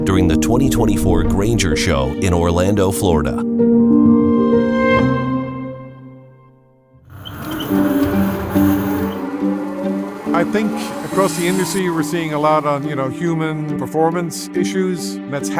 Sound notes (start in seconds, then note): 7.1 machinery whirring and squeaking; 8.7 bright music